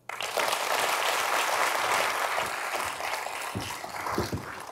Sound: audience applauding

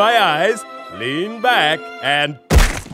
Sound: thump

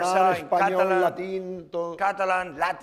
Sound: speaking spanish

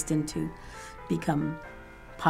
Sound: none

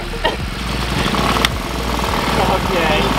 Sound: engine starting

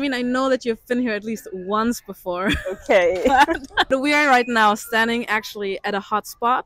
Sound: laughter

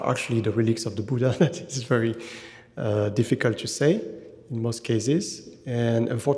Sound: chuckling

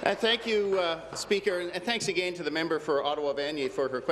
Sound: applause

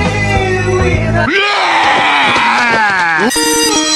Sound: vomits in disgust; bell rings to the tune

